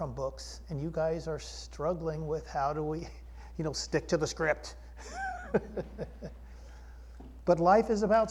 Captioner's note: shrill voice; laughter